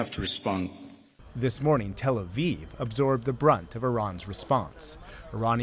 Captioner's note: voice-over